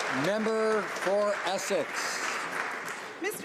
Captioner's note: applause